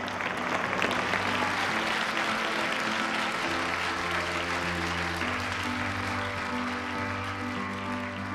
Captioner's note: applause